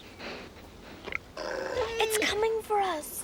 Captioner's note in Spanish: perro gruñendo